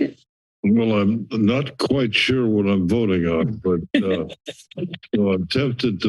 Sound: laughter

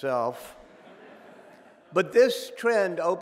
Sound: audience laughing

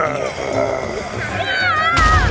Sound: groans; screams

